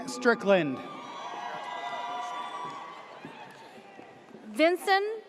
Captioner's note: audience cheers